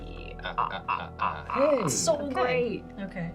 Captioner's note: maniacally laugh